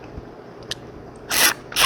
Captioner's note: sip